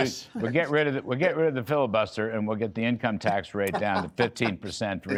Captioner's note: laughter